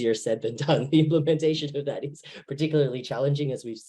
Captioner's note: laughs